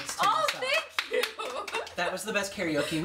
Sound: applause

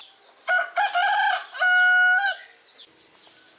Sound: crowing of Rooster

